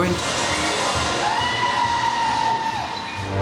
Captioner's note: scream